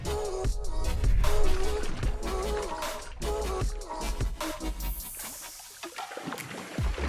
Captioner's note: water sloshing; bright music continues